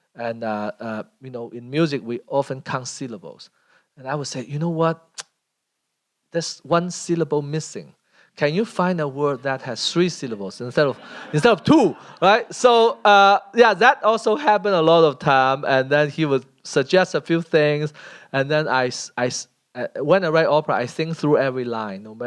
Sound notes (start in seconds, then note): 12.2 laughter